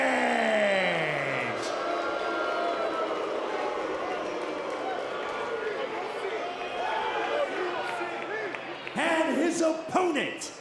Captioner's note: crowd boos